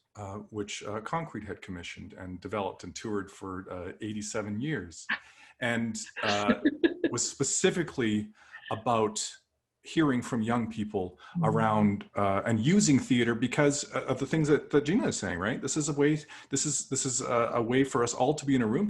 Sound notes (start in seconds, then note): 6.2 laughter